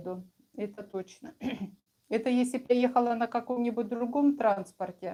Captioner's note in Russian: откашливается